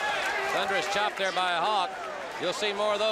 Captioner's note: crowd cheering